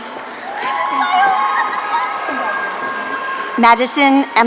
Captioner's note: audience cheering